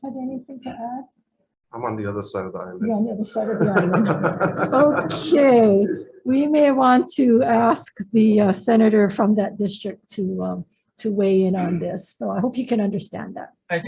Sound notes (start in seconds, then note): 4.9 all laughing